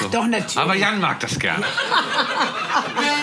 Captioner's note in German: Lachen & Gesang